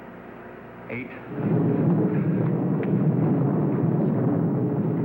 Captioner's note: loud rumbling